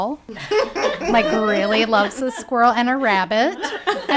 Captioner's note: people laughing